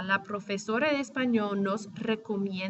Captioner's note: speaking spanish